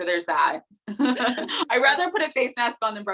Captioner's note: both laughing